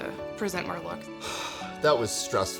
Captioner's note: sighs